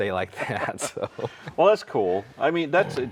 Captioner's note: both chuckling